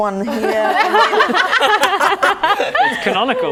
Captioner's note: laughing